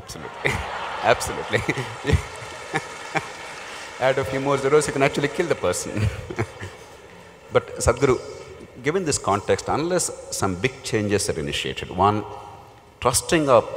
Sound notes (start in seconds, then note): 0.1 laughter; 2.9 laughs